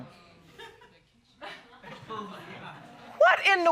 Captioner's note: audience laughing